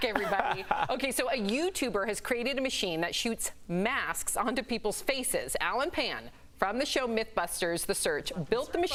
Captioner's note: laughter